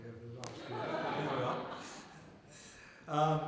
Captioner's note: laughter